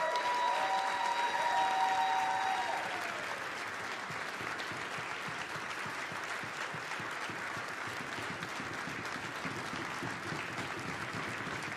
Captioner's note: applause